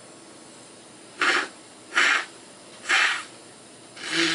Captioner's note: blowing nose